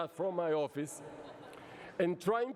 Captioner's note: laughter